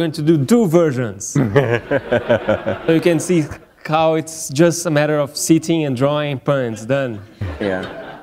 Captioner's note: laughter